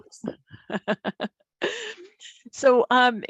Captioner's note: laugh